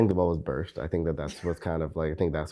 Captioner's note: laughs